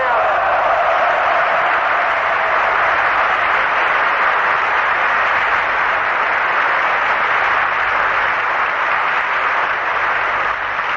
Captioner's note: applause